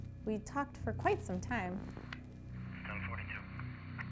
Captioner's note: radio chatter